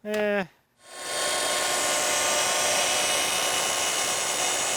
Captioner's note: saw whirring